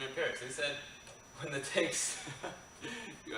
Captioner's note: giggles